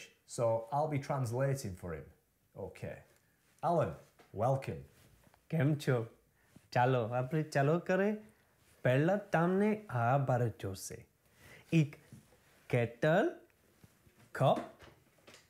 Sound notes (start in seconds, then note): 5.6 speaking Gujarati